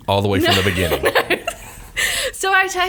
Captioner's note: laughs